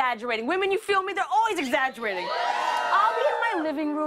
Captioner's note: cheers and applause